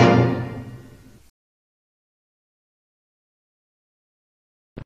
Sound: silence

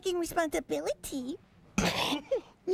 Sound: snickers

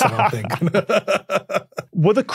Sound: laugh

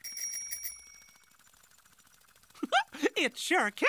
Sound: ding ding

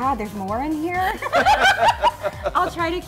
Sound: laughter

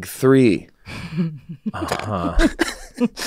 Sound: laughs

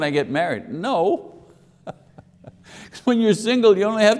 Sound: chuckling

